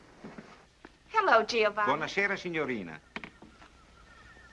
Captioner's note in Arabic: الصوت المنطوق بالإيطالية